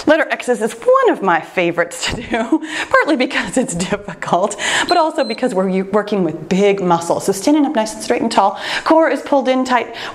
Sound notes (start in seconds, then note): 2.0 laughs; 4.8 timer beeps